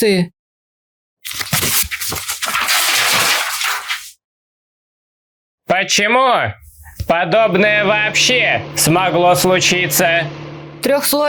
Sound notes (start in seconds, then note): 1.2 loud rustling of paper; 7.4 hum of a quad engine